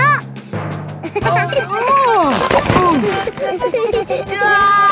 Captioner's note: giggling; grunting; giggling